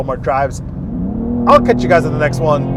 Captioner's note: engine roaring